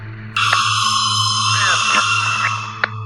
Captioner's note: high pitched scream